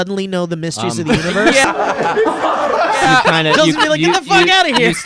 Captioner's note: laughing